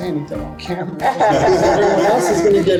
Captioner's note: group laughs